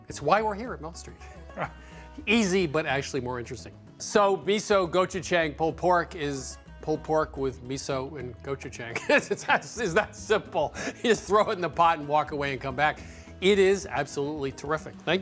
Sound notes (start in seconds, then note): 1.4 chuckles; 10.7 laughing